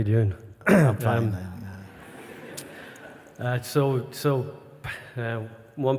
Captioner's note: laughter